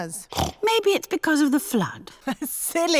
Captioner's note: snorts; laughs